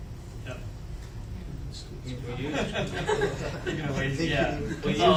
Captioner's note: people laughing